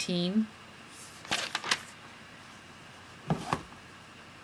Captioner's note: page flipping